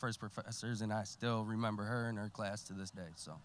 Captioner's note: voice quavering